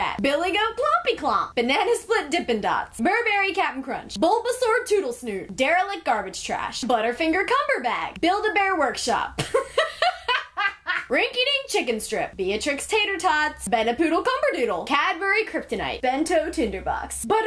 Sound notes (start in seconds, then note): 9.4 laughs